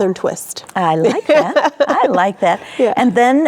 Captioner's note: laughing